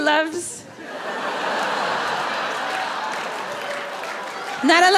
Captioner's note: audience laughing